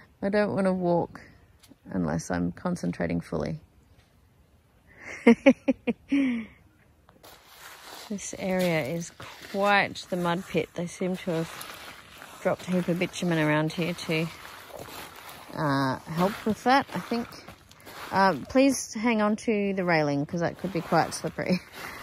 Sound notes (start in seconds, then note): 5.0 chuckles; 7.2 gritty, squelching footfall noises